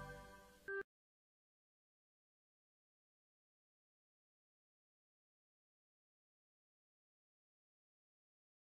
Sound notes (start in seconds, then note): 1.6 silence